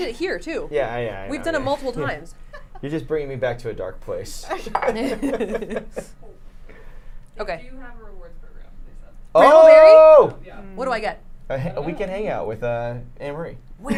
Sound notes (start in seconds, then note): 4.7 laughs; 4.8 everyone laughs